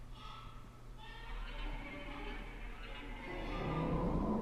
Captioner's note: baby crying